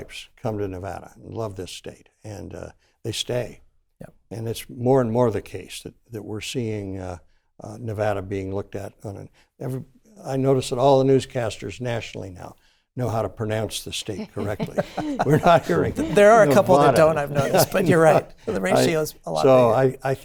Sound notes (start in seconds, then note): 16.3 laughter